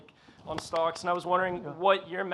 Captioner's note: Mark claps